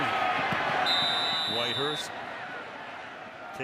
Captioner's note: whistle blowing